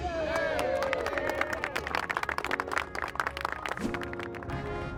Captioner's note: people cheering and clapping